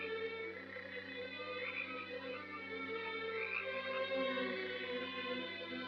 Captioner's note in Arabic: موسيقى مُشوقة; نعيق الضفادع